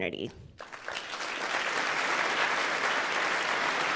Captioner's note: applause